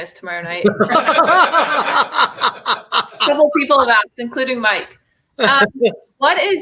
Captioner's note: laughter